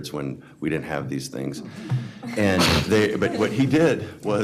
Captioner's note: several people chuckling